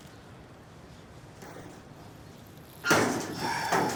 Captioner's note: door Opens